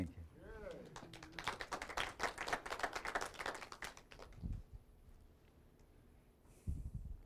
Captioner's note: applause